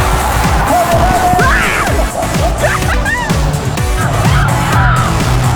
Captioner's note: laughter